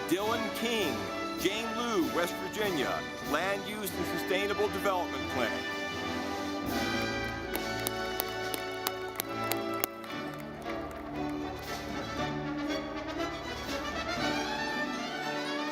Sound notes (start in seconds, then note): 6.8 audience clapping